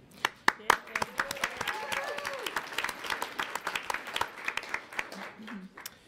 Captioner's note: audience applauds; audience cheers